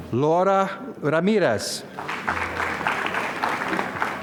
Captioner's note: applause